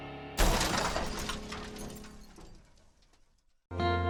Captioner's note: shattering; mellow country music